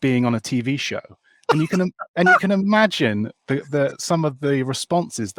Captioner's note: laughs